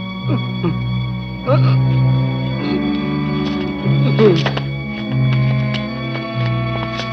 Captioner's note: clattering; doctor groaning